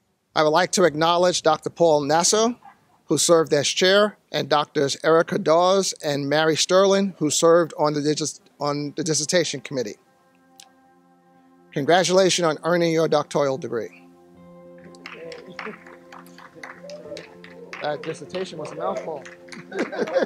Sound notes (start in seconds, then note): 14.9 cheers and applause; 18.9 laughs